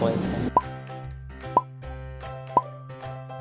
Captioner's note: popping noises